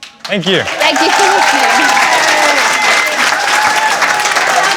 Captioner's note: cheering and applause